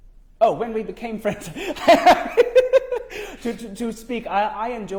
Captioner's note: laughs